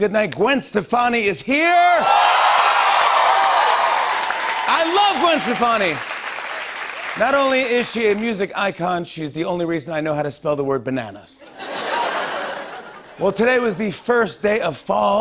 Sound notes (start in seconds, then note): 2.0 cheers and applause